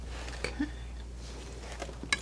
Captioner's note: scratching